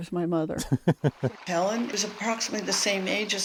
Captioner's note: laughter